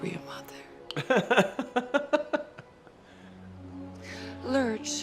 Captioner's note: man laughing